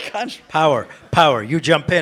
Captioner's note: participants laugh